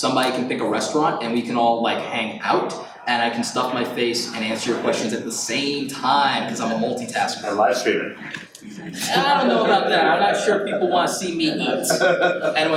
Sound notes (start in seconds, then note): 7.8 audience chatters; 8.0 laughs